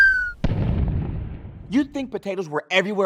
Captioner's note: whistle blowing; explosion sounding